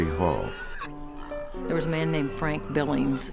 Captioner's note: animal sounds